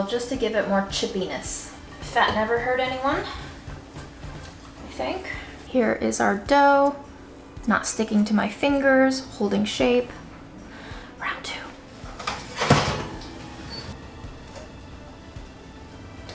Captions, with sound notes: just to give it more chippiness. Fat never hurt anyone, (upbeat music) I think. Here is our dough, not sticking to my fingers, holding shape. Round two. (rattling sound) (upbeat music)